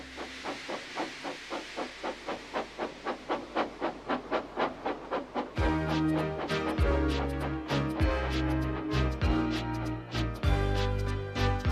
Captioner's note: Thomas chuffs backwards, then stops